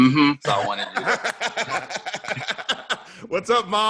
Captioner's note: laughing